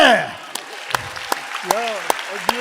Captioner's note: audience applauding